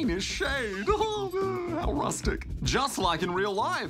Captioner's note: laughs